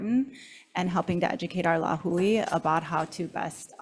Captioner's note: speaks foreign language